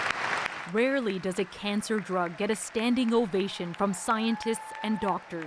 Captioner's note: applause